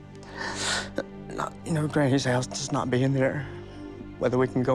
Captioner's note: sobbing